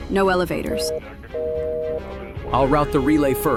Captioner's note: phone loses signal